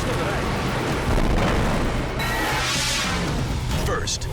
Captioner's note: wave booms; air whooshes